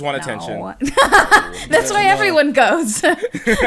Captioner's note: laughs